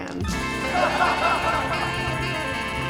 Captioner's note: audience laughs; upbeat jazz music